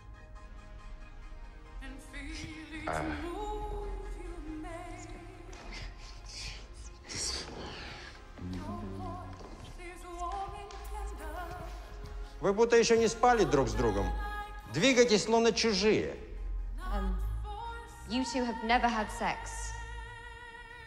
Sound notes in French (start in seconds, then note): 12.2 parler russe